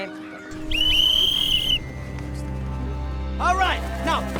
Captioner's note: whistle blows